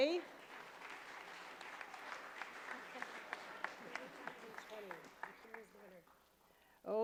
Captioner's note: applause